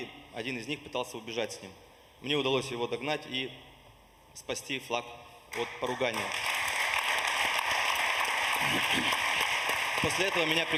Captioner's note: applause